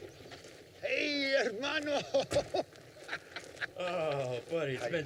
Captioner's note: laughs